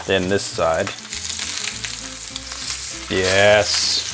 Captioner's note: chops sizzling continues